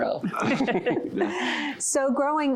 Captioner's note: laughter